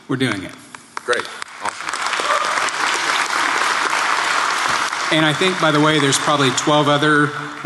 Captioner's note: applause